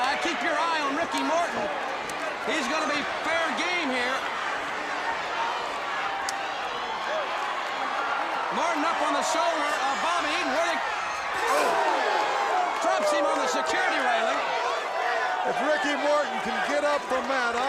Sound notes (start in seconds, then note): 12.6 crowd cheering